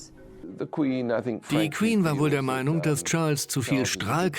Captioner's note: voiceover